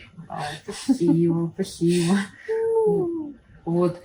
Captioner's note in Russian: Звуки умиления